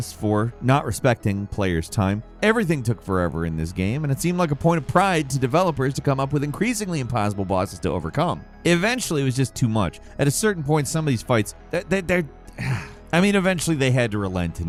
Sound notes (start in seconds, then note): 12.5 sighing